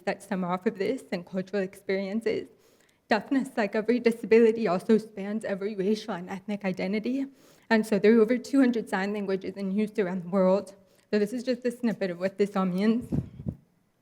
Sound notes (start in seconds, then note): none